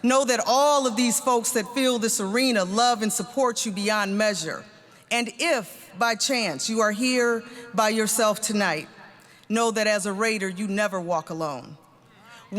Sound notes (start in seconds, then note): none